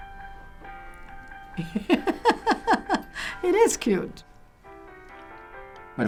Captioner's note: laughs